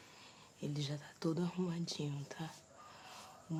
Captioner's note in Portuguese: sussurro